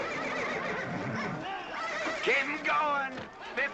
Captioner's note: horse neighing